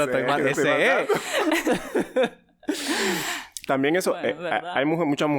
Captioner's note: laughs